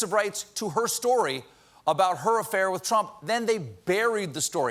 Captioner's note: none